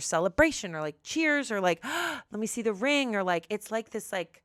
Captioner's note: gasps